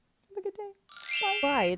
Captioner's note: chiming